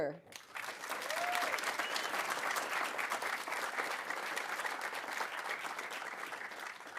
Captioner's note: audience applauding; audience cheering